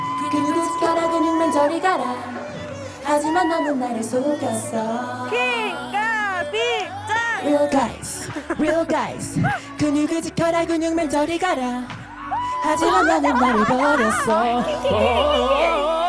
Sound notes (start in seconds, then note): 3.0 crowd cheering for the former headliner’s entrance; 12.1 laughing